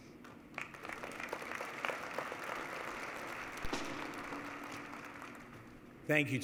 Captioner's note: applause